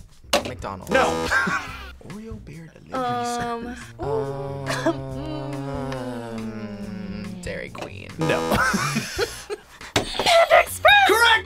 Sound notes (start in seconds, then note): 0.9 laughs; 4.4 laughs; 8.2 buzzer; 8.2 laughs; 9.9 buzzer rings